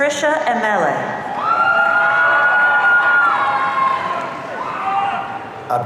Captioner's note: audience cheering